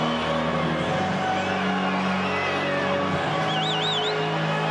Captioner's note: crowd cheering